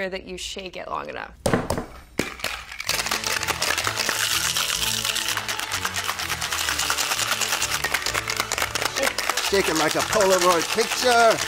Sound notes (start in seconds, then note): 1.4 hand pounding; 2.2 ice shaking; 2.9 quirky orchestral music; 11.2 ice shaking; 11.2 quirky orchestral music